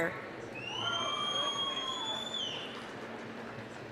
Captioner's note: applause, cheering